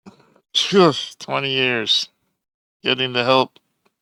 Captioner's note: sigh